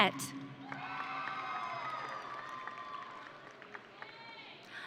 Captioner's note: audience cheering